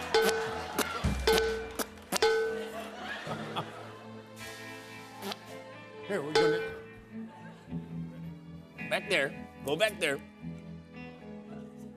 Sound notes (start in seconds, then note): 0.1 tin clangs; 1.3 spitting; 2.2 tin clanging; 5.0 spits; 6.3 tin clangs